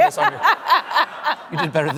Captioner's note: laughs